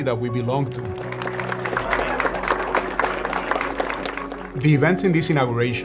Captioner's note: crowd applauding